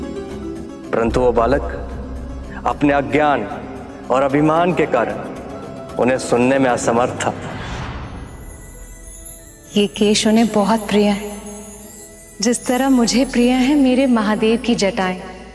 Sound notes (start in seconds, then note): none